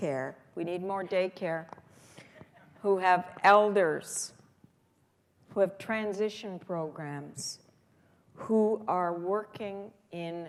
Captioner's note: laughter